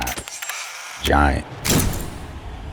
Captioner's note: camera whirring; camera flash bursting